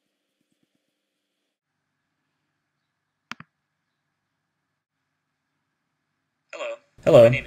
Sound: mouse clicks

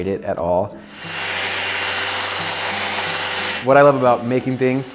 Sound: sanding

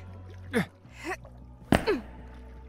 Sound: grunt

